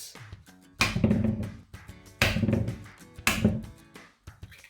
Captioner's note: crushing eggs